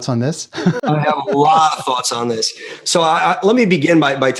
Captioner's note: laughter